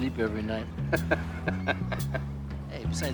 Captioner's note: laughing